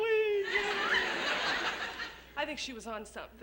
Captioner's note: laughter